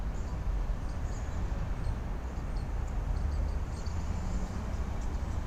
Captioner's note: birds chirping